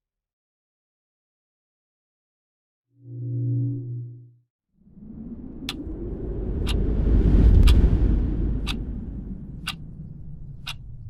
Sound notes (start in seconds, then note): 6.4 ticking